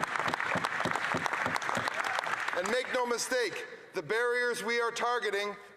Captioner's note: some Applause